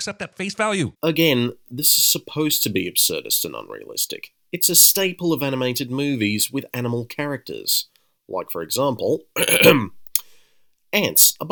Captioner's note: ahem